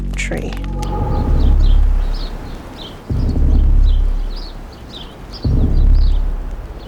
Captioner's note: birds chirping